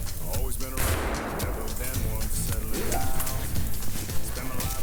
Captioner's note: gunshot rings out